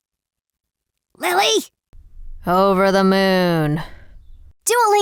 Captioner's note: whispers